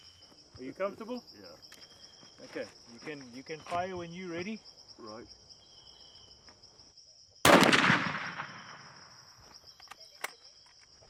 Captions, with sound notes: - Are you comfortable? - Yes. - Okay, you can fire when you are ready. - All right. (rifle blasting)